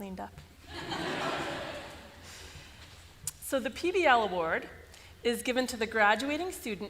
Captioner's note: laughter